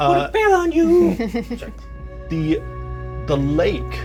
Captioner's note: Evelyn chuckles